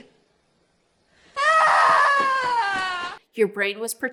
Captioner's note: screams loudly